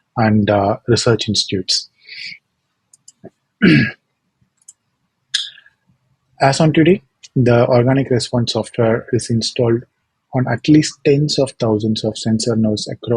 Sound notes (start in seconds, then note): 2.9 mouse clicking; 3.6 throat clearing; 4.5 mouse clicking